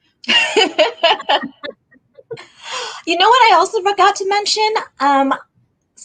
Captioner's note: laughs